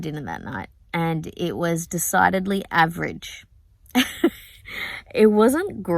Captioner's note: laughs